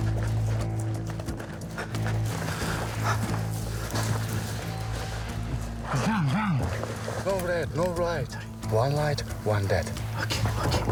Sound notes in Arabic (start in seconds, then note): 5.9 الصوت المنطوق الأوكراني